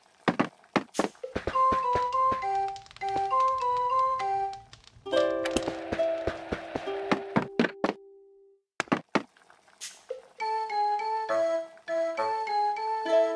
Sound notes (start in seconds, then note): 0.2 footsteps; 1.2 fireplace sound; 4.9 footsteps; 5.2 TV Sound; 7.4 footsteps